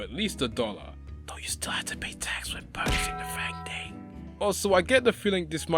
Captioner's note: whispers